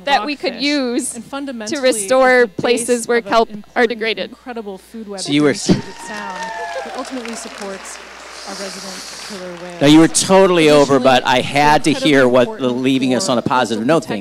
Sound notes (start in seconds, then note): 5.4 audience applauding